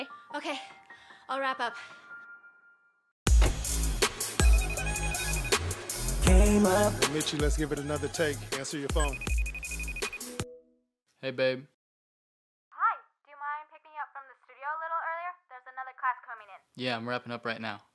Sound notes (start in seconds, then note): 3.3 hip hop music; 4.4 phone ringing; 8.9 phone ringing